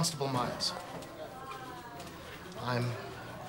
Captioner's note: background people chattering